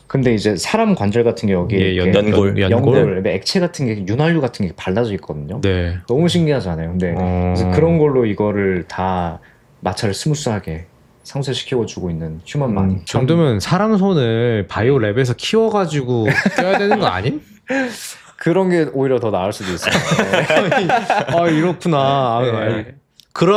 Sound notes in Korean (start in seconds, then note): 16.2 웃음